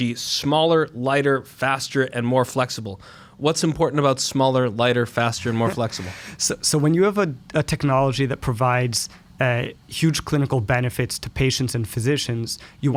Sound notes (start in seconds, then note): 5.4 laughs